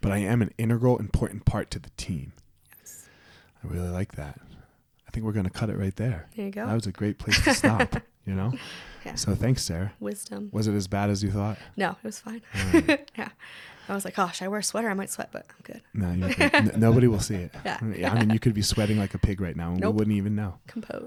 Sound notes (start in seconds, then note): 7.3 laughs; 12.5 laughs; 16.1 laughs